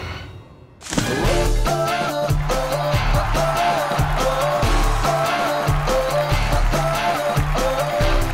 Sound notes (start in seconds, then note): 2.0 cheering